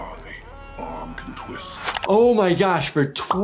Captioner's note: person screaming